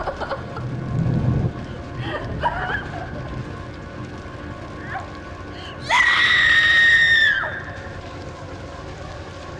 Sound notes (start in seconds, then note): 5.8 Liz screams loudly